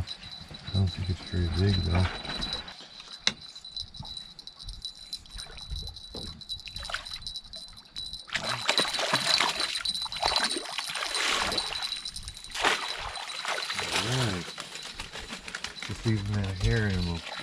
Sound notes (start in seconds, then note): 3.7 jangling; 7.5 fish splashing